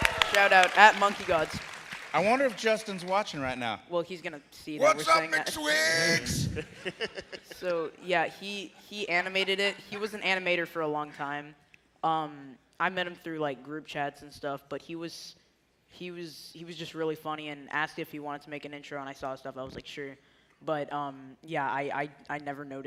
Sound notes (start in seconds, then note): 5.5 cheers and applause